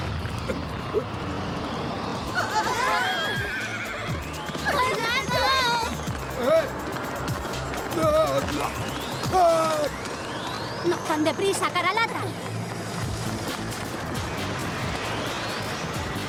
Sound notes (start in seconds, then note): 0.1 blast; 2.9 horse whinnies